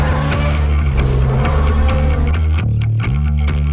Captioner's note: Godzilla Roars; Kong Roars